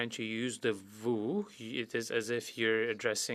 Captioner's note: speaking French